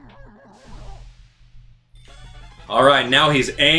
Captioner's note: steam whooshing